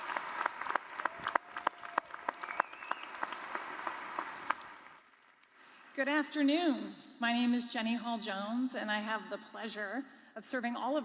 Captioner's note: applause